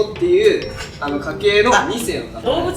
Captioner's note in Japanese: 笑う